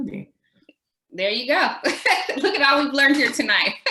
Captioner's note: laughs